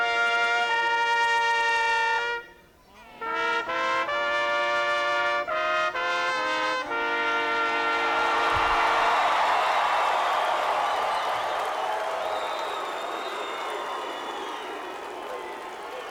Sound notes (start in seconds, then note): 7.4 crowd cheering